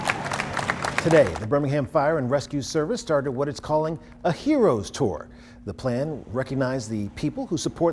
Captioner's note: applause